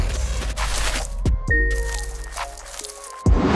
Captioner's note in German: Lockere Klänge, raschelnde Geräusche; Klingeln, knisternde Geräusche